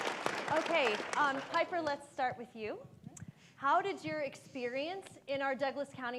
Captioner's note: applause